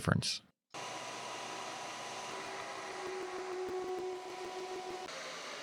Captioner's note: machine motor hums